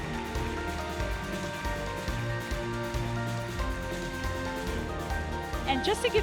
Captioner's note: applause - Music